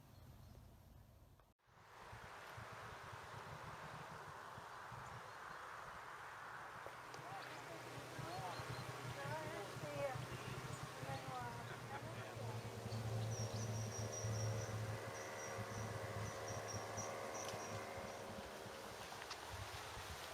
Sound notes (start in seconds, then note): 3.7 distant sound of birds, people talking and passing traffic